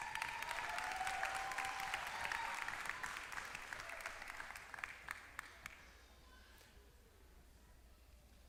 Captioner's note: applause